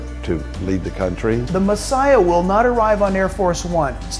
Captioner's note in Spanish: Voz en off masculina